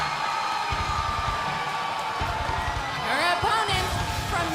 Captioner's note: crowd cheering